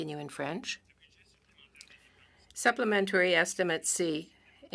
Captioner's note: speaking French